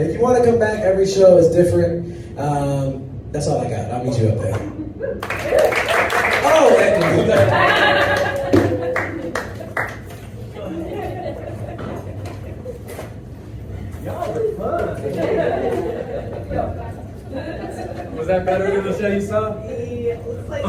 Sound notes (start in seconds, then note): 5.1 cheering